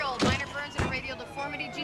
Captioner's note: sirens